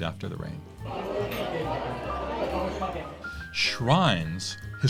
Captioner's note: crowd chatter